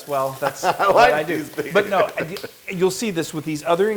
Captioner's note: laugh